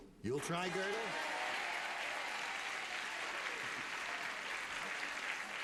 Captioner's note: cheering and applause